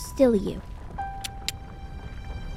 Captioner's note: uplifting music; tongue click